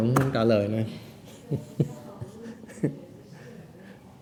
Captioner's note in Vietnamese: laughing